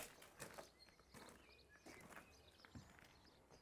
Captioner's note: birds chirping